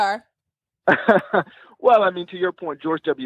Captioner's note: laughing